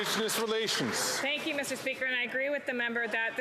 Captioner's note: some Applause